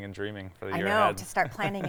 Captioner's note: laughing